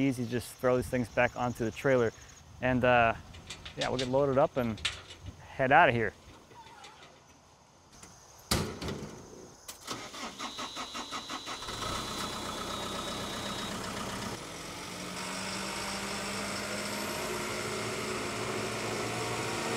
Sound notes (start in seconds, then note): 8.3 clanking, motor revving; 14.5 motor humming